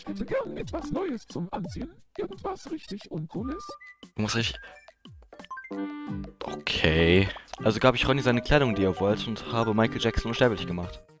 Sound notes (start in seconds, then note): 4.6 gasp